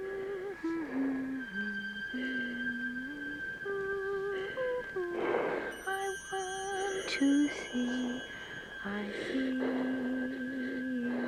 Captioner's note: humming